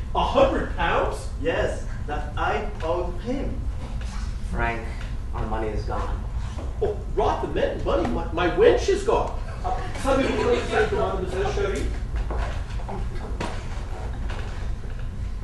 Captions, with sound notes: - 100 pounds? - Yes, that I owed him. - Frank, our money is gone. - Rot the money, my wench is gone! [FRENCH]?